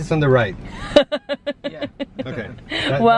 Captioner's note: laughing